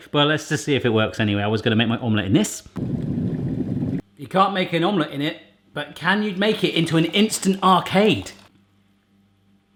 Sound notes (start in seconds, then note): 2.8 kettle bubbling